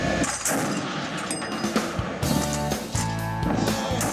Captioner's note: machine gun firing